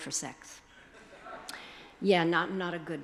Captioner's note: attendees chuckling